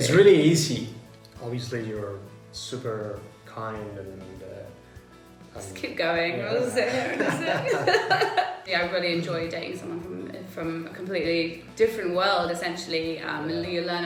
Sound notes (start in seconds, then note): 6.8 both laugh